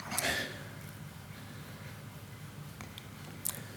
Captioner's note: sighs